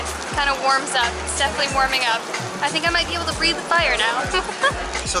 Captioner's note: giggles